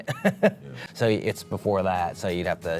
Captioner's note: laughter